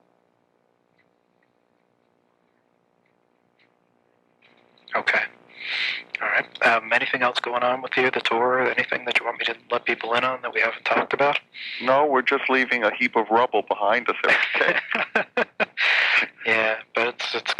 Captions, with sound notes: - Okay. All right, anything else going on with you, the tour or anything that you want me to let people in on, that we haven't talked about? - No, we're just leaving a heap of rubble behind us, okay. (laughing) - Yeah, but it's gotta be great.